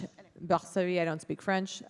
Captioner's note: Kate speaking in foreign language